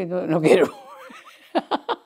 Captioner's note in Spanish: Ríe